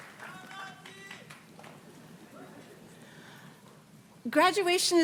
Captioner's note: graduate cheers